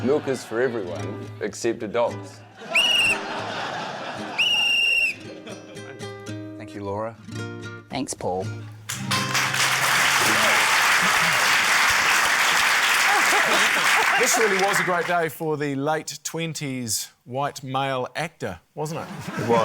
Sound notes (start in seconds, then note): 2.7 blows whistle; 8.8 applause